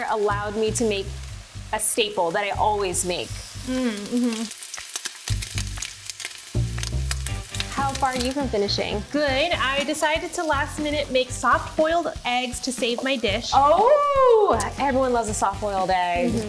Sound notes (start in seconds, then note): 3.9 oil popping